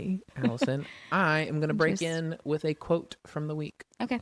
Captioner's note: laughs